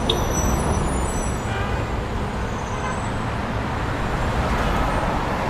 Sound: traffic rumbling and honking

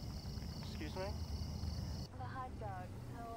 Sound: man’s Voice

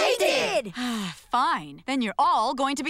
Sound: sighing

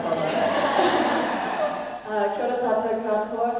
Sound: laugh

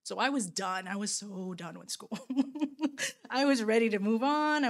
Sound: laughing

